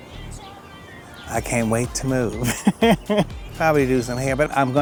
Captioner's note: chuckles